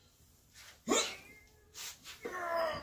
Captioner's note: grunt; grunt!